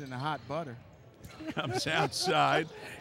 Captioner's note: laughing